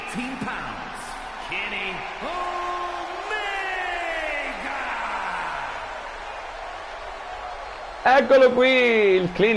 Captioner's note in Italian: Applauso